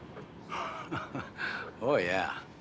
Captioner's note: chuckles